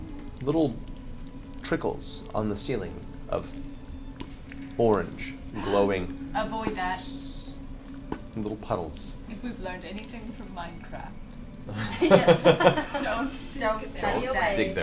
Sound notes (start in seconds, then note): 11.7 all laugh